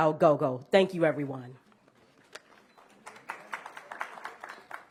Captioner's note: applause